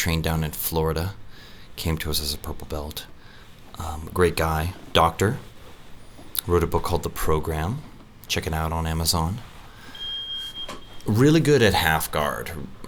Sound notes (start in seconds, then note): 9.9 beep